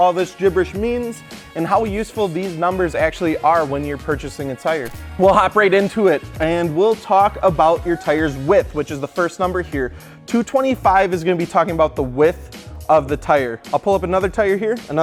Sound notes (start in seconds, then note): 4.8 screen glitching